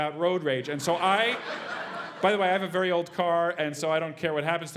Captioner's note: laugh